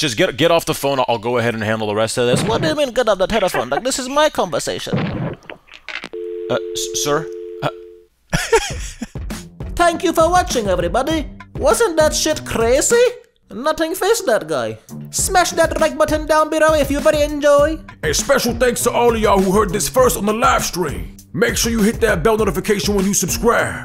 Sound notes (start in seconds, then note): 5.9 hangs up